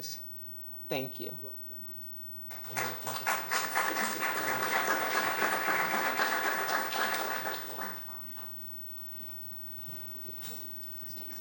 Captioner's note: applause